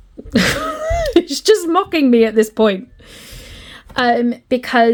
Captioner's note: laughs